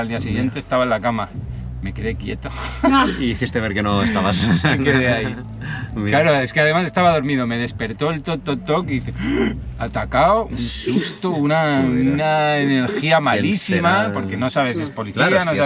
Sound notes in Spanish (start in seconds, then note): 10.7 carraspeo